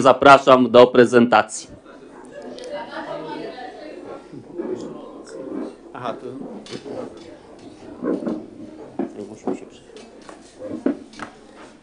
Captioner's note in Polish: gwar, rozmowy